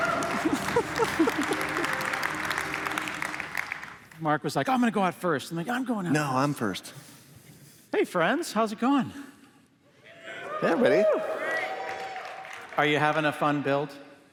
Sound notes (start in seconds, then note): 0.0 applause; 10.1 cheers